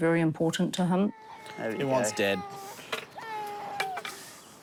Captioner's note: baby cries